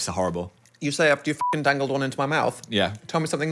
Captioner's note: beep